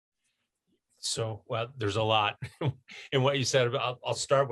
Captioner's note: laughter